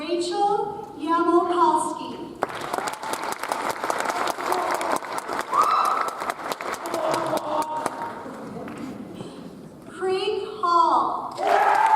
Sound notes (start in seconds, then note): 2.4 audience applauds; 11.4 audience applauds